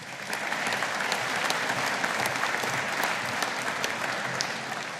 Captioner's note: audience applauding